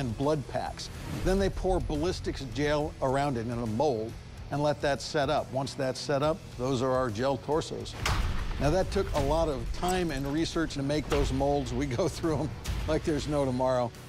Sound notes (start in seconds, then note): 8.0 whack